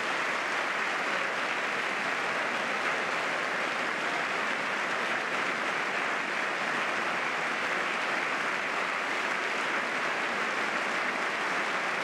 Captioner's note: applause